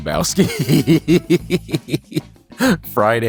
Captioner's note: laughing